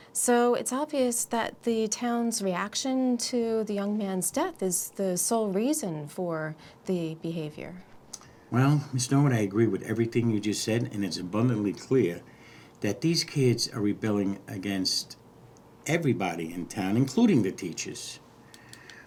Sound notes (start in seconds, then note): none